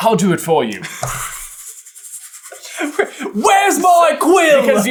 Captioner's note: laughter